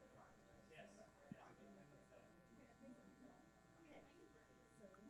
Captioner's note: groups chattering